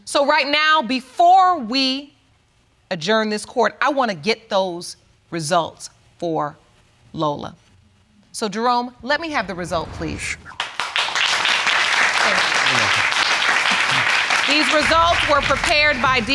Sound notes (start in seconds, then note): 10.5 audience clapping